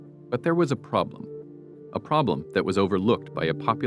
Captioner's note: none